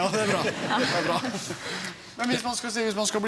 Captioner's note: laughing